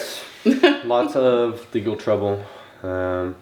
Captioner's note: mom laughs